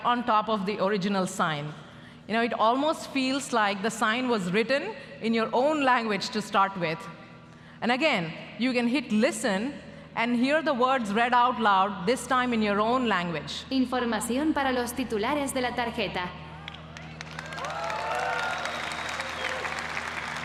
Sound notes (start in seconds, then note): 14.3 speaking spanish; 16.6 applause